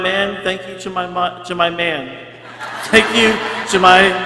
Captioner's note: people cheering